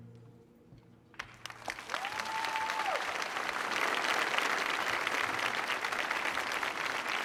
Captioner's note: audience cheering